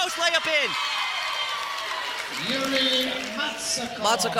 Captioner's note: cheering